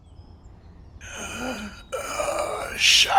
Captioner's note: gasping